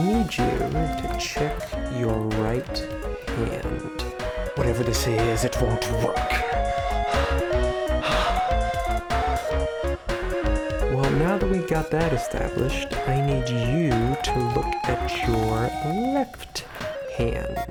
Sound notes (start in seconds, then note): 6.6 Heath breathing heavily